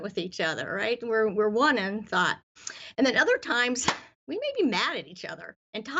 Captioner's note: claps